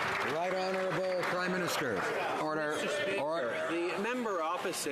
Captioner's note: some Applause